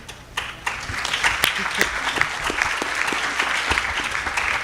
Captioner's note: audience applauding